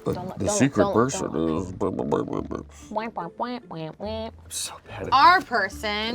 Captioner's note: making silly sounds